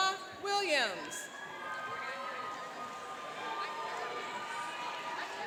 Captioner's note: cheering and applauding